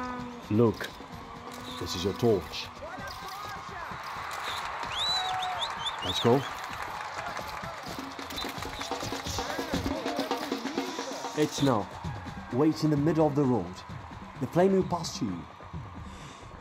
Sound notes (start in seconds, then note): 3.3 people whistling, shouting, applauding, celebrating